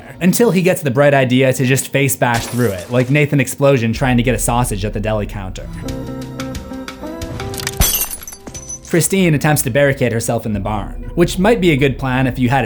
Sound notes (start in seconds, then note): 5.5 broken glass; 5.5 smash